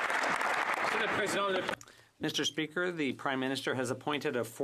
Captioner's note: speaking French